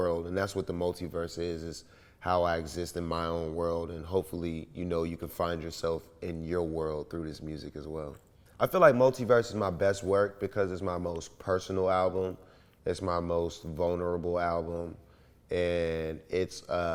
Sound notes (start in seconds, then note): none